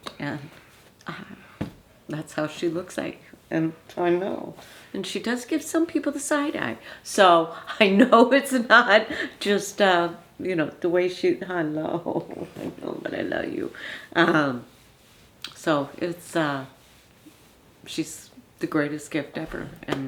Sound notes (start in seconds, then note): 12.3 Lottie's grandma laughing